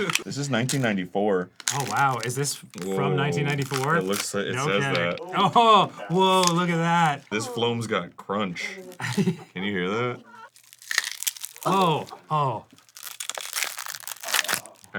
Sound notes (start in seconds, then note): 10.0 styrofoam-like crunching; 13.0 both are crunching into the mic